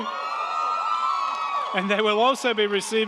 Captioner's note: crowd cheering; crowd clapping